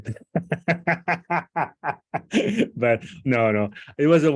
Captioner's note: laughter